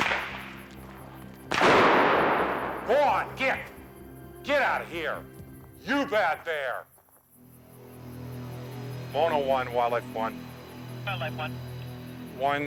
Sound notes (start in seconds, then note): 1.4 gun blasting; 1.5 device exploding